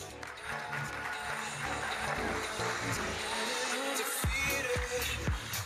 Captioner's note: audience applauding